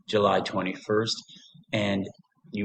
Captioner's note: pause